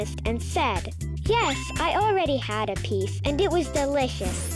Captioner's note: bell dinging